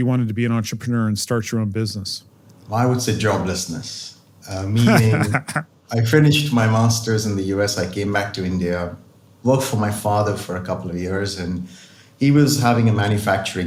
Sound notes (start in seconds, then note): 4.7 laugh